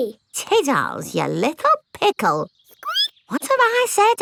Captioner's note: squeaks